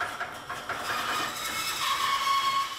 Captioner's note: squeaking